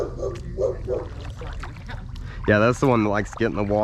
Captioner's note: dog barks off-camera